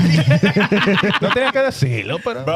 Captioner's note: laughing